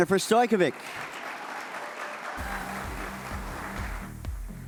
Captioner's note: audience applauds